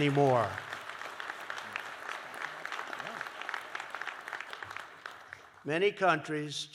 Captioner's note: applause